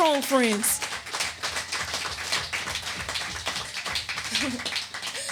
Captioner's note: audience applauding